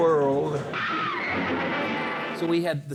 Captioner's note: creature screaming